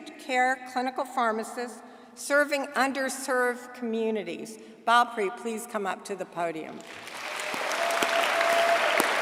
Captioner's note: applause